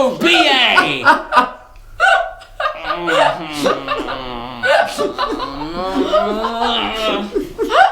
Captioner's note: groaning; laughing